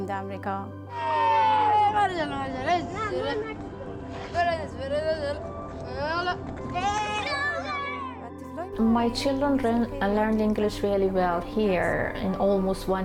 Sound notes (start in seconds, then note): 1.7 children cheering, chatting